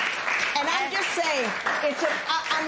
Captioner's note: applause